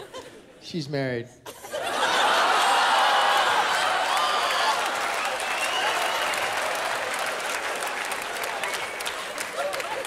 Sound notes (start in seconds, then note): 1.6 laughter, cheering; 6.3 laughter, cheering, applause